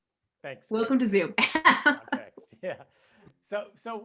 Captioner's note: laughs